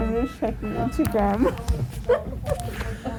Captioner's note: laughs